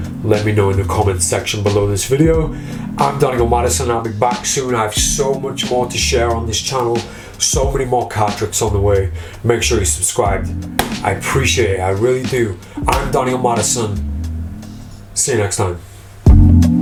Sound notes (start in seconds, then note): 10.8 hand slaps